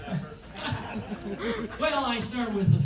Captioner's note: audience laughs